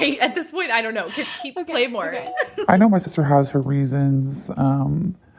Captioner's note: bingbong